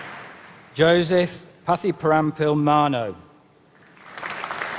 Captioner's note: applause